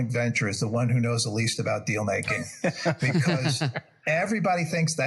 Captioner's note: laugh